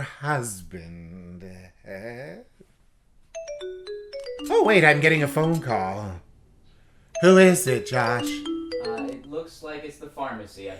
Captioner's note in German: Telefon klingelt